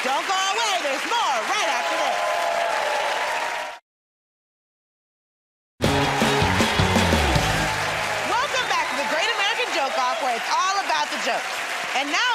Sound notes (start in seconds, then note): 3.4 cheers and applause; 5.8 cheers and applause